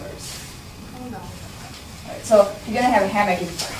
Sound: voiceover

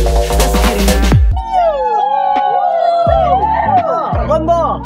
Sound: cheering

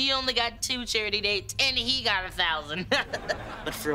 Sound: laughing

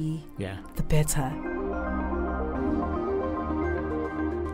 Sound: voiceover

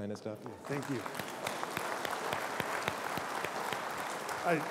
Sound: applause

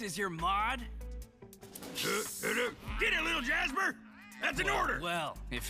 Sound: hissing

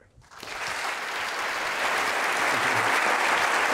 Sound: audience applauding

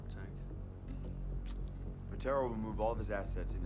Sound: smacks lips

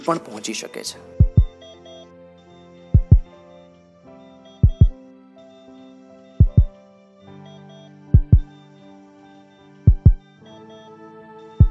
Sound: ICU monitor Beep and heart beat music playing

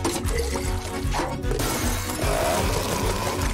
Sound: thudding

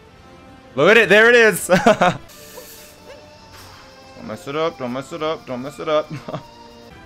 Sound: laughs

